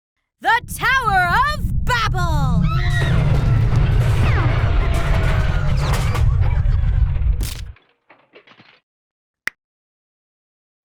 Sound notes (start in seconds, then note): 2.7 audience screams; 4.4 crashing; 9.1 click